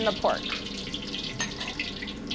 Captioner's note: pork sizzles